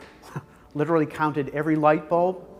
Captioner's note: laughs